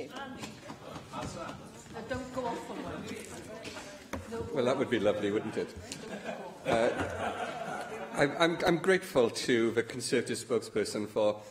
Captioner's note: laughter